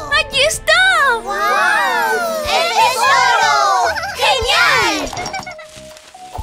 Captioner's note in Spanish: Risas